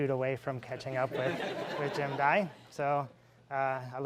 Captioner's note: laughing